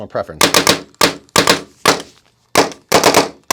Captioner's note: shots firing